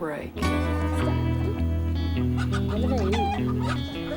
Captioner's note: chickens clucking